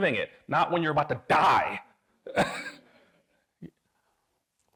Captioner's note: chuckles